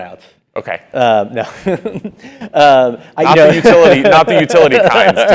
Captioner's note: laugh